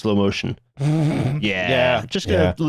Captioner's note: snorts